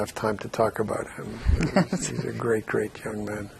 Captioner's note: laughing